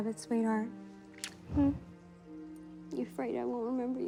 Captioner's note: kisses